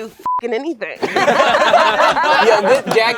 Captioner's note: all laugh